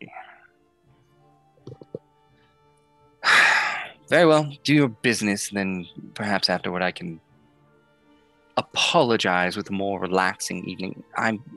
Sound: sighs

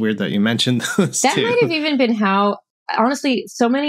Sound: laughter

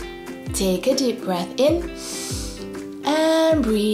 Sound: breathes in deeply

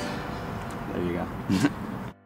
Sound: chuckles

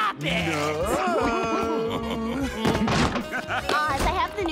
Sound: both giggling

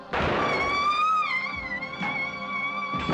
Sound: screams

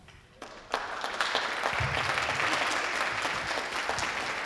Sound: audience applauding

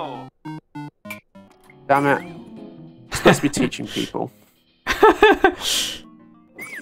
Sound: laughter

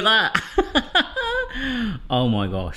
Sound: laughing

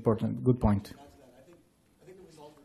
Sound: voiceover

